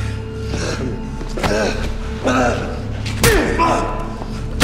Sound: tense music continues; man panting; man groaning

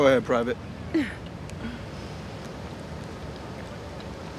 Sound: chuckles

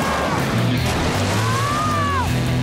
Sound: screaming

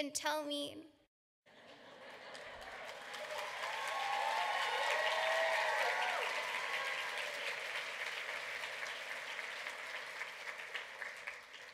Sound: laughter and clapping

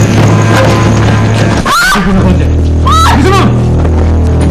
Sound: shrieks

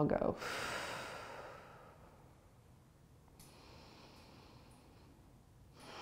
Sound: exhaling and inhaling

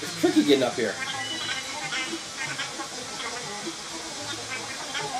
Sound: CJ chattering

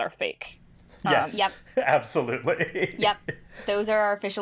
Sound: laughing

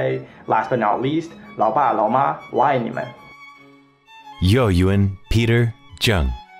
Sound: non-english speech

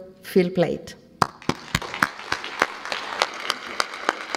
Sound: claps

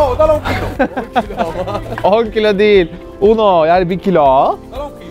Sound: laughs

